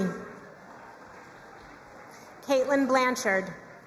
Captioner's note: crowd cheering and applauding